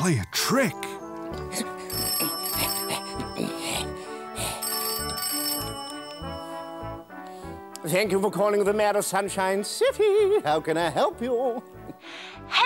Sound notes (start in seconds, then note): 1.6 ring! Ring!